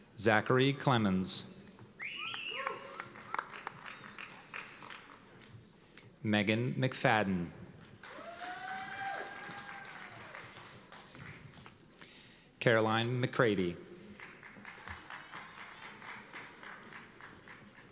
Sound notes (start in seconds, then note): 2.1 cheers and applause; 8.0 cheers and applause; 14.1 applause